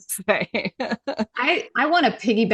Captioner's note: laughing